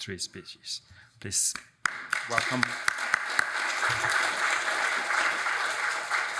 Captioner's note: audience applauds